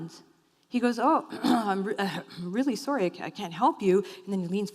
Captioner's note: clears throat